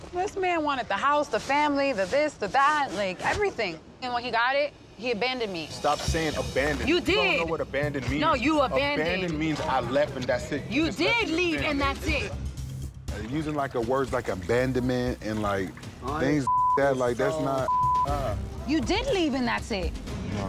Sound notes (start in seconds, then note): 17.6 beep